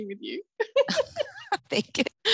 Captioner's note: both laugh